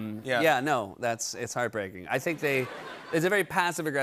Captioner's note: laughter